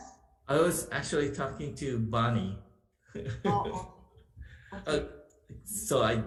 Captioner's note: laughing